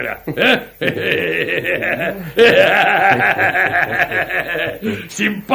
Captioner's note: laughs out loud